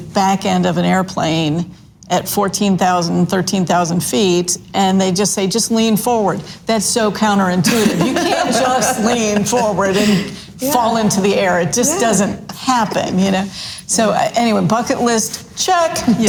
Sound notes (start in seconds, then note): 7.6 laugh loudly